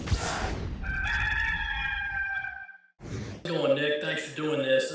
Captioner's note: rooster